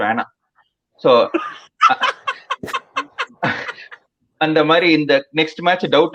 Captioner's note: laughs